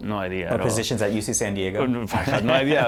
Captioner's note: laughter